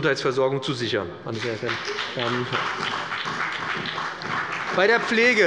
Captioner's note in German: Beifall bei dem BÜNDNIS 90/DIE GRÜNEN und der CDU